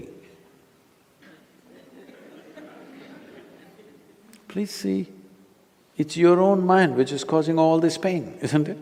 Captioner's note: few Laugh